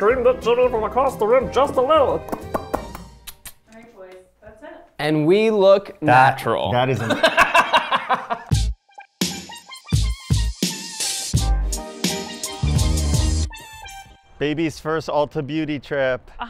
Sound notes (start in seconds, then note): 2.3 smacks lips; 6.9 laughs; 8.4 soft bouncy music